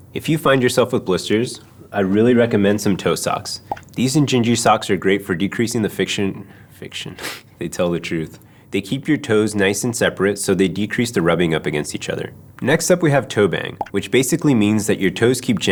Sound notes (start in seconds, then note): 7.2 chuckle